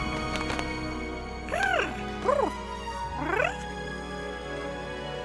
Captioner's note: applause